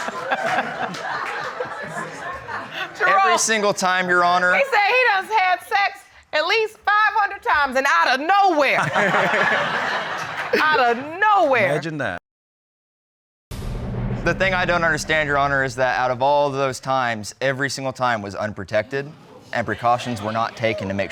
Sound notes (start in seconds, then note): 0.0 laughing; 8.8 all laughing